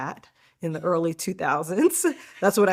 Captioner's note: giggling